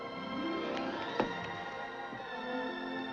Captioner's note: thunk